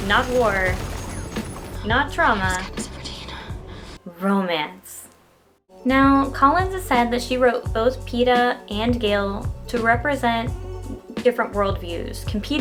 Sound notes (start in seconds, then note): 3.1 gunshots